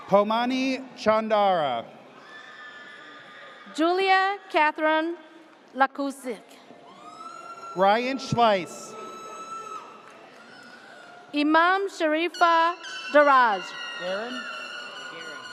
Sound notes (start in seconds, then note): 7.0 audience cheers